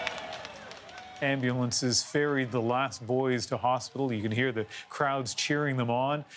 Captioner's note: cheers and Applause